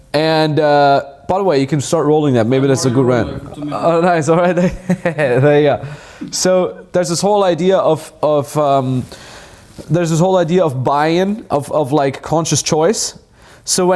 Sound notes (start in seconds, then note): 5.4 laughs